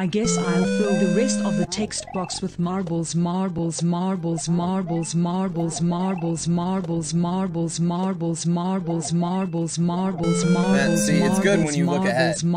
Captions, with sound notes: [8-bit LoZ item achieved audio] [text to speech still saying "marbles"] [8-bit LoZ item achieved audio] Yeah, see it's good when you look ahead Yeah, see it's good when you look ahead